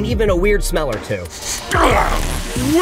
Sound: sniffing

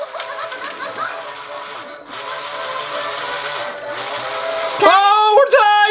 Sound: caterpillar laughs; animated music

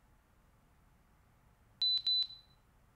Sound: beeps

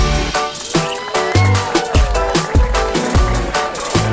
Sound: upbeat music; cheers

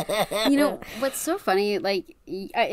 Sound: laughs

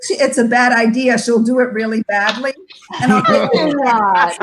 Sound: members laughs

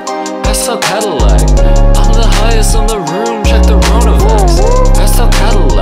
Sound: woo-oo-ooh

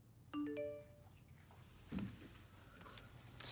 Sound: message tone dings

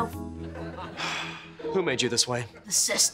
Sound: sighing

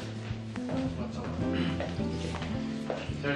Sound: clears throat

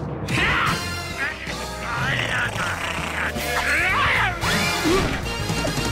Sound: both growling

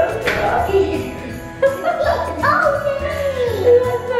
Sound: laughing

